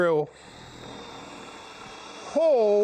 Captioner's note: drill whirring